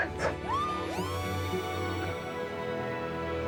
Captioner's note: crowd cheering